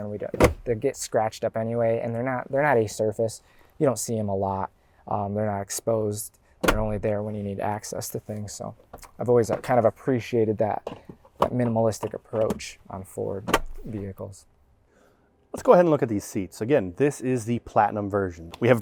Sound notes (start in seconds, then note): 14.4 console snaps